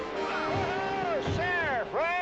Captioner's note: all shouting